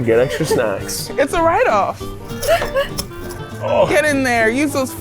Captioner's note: candies rattling